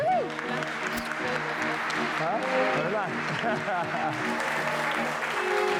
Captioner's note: guests applauding and cheering